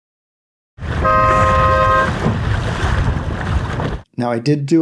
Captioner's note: horn